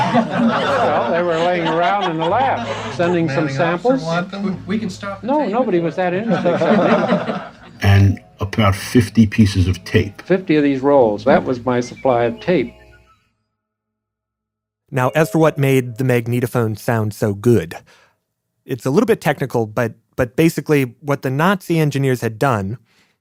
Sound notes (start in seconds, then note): 6.0 laughter